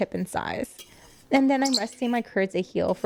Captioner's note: chirps